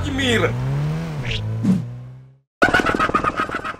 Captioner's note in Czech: Odjíždějící auto